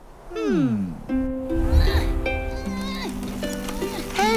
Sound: Ginger grunts

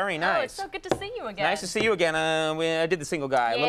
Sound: Conan mumbles

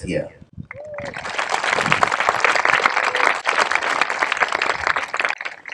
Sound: applause

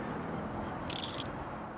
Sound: camera shutter clicks

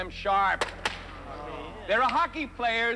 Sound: players groan

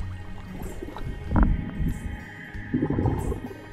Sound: bubbling

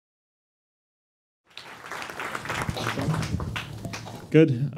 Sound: applause

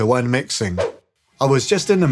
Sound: whoosh sfx

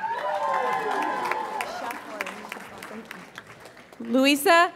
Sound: audience applauds and cheers

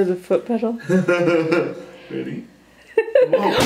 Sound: laughing

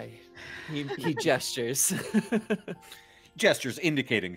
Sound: laughing

